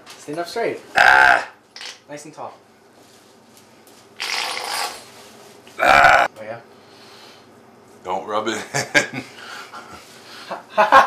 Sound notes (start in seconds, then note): 4.2 bottle makes farting sound; 10.0 laughs